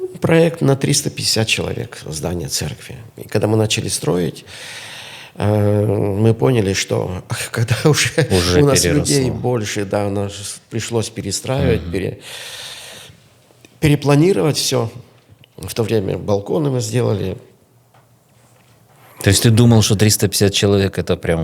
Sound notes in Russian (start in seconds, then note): 10.3 смех; 12.2 тяжело вздыхает